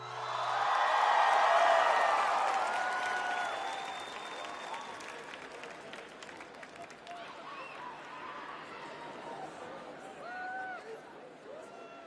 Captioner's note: crowd cheering